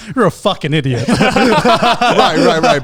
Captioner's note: laughing